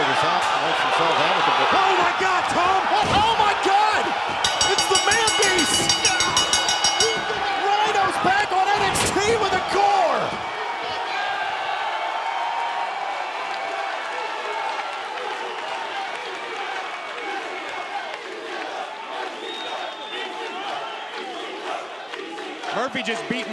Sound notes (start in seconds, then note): 6.6 bell ringing; 12.2 cheers and applause; 19.3 fans chanting